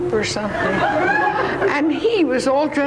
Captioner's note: audience laughs